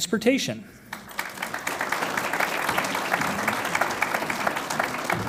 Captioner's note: audience applauds